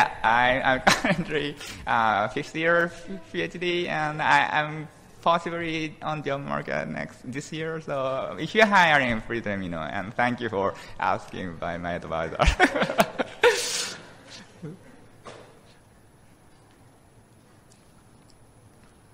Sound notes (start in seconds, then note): 12.4 laughing